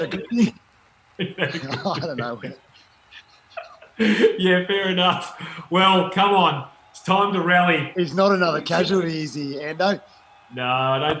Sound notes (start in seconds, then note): 0.2 rock music; 2.1 siren wailing